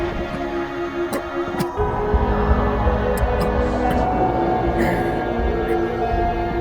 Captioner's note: animals howl